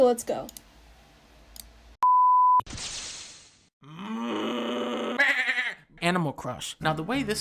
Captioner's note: mooing sound